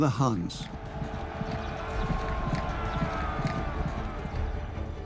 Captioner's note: battle cries